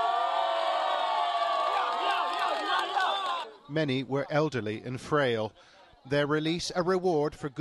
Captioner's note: cheering and applause